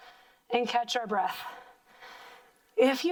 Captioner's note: heavy breathing